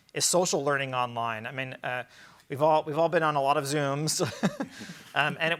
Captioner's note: chuckles